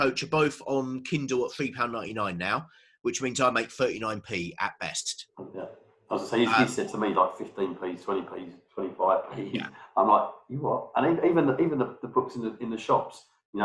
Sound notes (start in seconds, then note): 6.1 murmurs